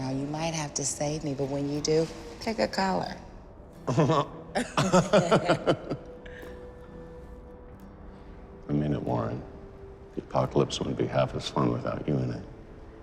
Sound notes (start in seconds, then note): 4.5 laughs